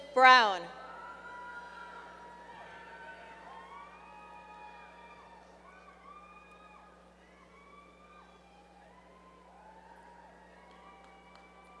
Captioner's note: applause